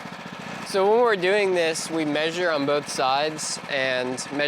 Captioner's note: motor running